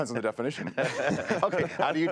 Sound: both laugh

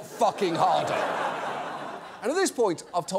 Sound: audience laughs

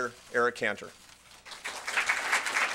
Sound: applause

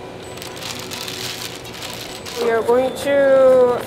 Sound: piping bag crinkling

